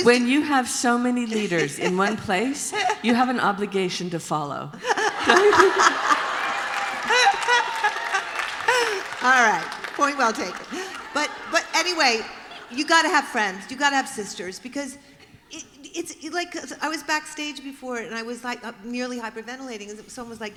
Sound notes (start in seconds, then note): 4.7 laughter; 5.3 applause; 8.0 laughter